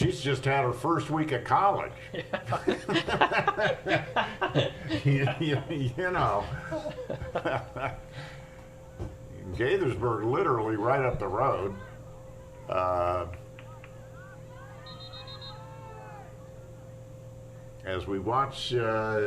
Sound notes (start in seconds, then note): 6.2 laughter